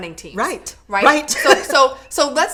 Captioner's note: laughs